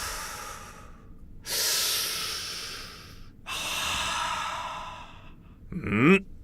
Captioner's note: inhale; exhale; inhale; exhale